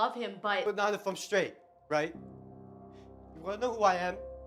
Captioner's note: voiceover